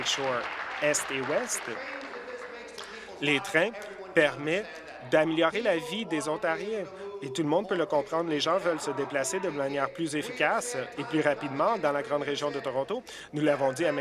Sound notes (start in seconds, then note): 2.4 applause